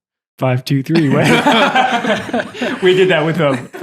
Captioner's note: all laughing